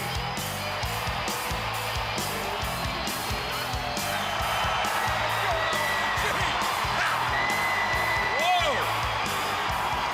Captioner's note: crowd cheering